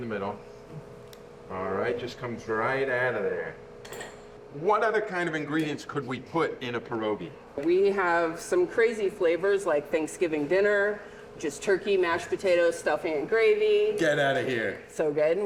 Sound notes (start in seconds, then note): 1.3 ice cream scooper clicking